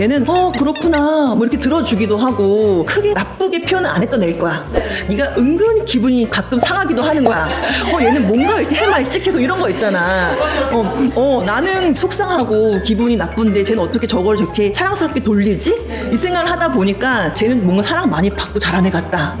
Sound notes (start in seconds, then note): 7.0 laughing cheerfully; 7.0 covering up with a laugh